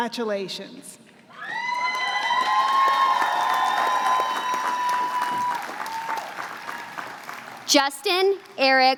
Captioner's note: applause